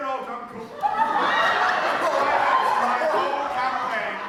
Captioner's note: audience laughter